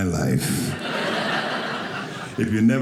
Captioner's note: audience laughing